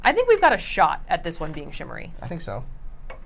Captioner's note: bowl clinking